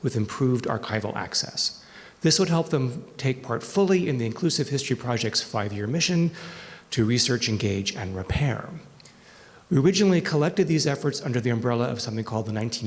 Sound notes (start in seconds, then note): none